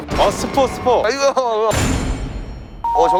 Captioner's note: stuttering